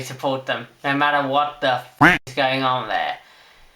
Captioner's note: quack